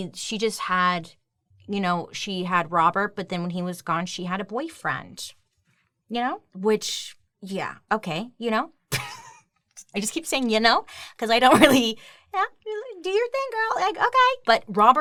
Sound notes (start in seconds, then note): 8.9 chuckles